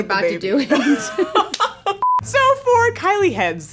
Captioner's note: laughing